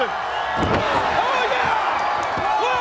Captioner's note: crowd cheering